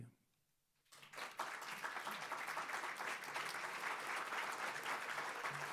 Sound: audience applauding

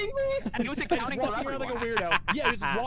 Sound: laughter

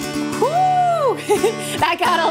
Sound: giggling

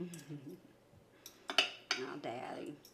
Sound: woman laughing

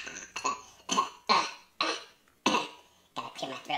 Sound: choking; coughing

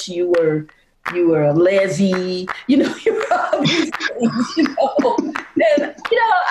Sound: chuckling

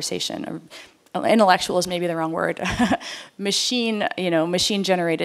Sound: laughter

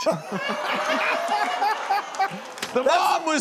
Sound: laughing

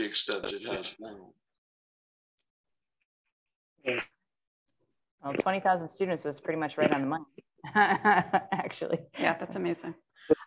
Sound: laughter

